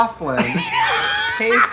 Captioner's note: Katya laughs